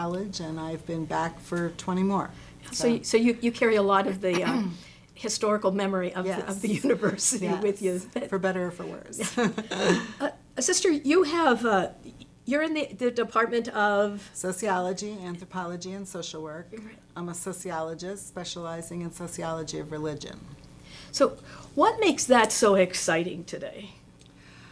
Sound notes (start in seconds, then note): 8.9 laughs